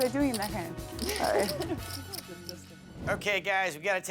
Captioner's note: laughing